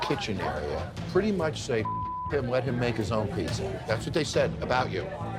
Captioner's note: beep